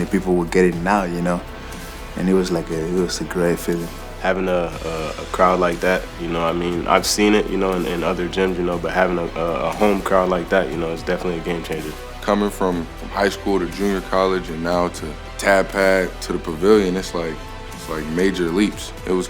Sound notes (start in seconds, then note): 4.4 voiceover; 12.5 voiceover